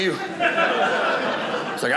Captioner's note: audience laughing